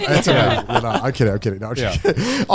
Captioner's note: all laughing